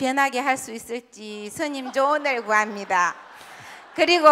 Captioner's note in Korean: 청중 웃음